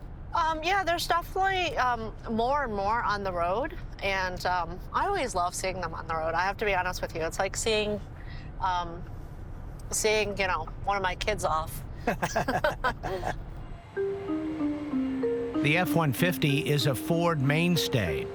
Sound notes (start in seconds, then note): 12.0 both laughing